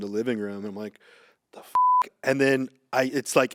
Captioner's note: beep